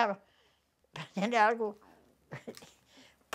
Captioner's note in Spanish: ríe